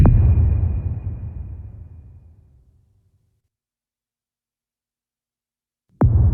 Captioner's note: dramatic sound